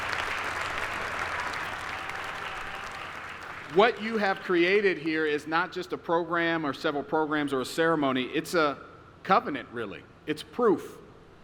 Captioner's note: applause